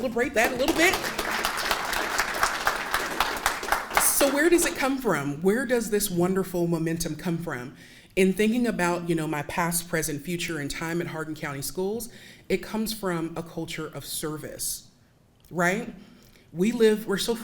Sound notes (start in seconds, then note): 2.3 audience applauding